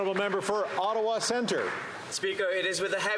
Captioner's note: some Applause